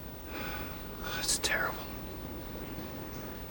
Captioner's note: sighs